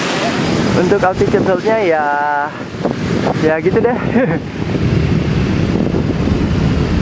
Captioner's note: chuckle